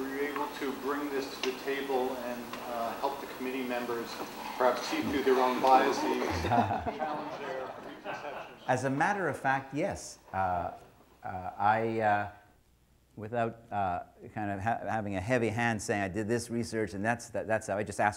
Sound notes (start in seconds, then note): 5.8 laughter